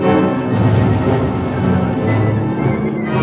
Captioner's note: booming